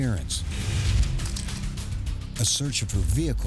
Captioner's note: camera shutter clicking